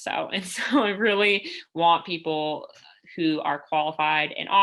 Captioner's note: laughter